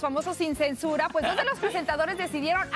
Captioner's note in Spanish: risas